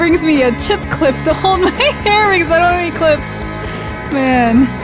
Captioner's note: laughs